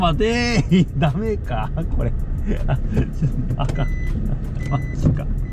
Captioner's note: laughs